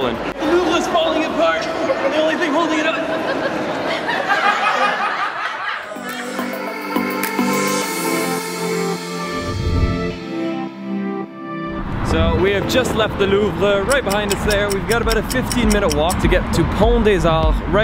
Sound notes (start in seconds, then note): 2.9 laughter; 5.8 upbeat music